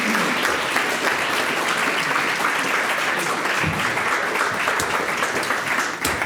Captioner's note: audience applauds